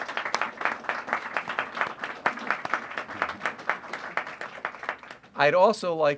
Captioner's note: applause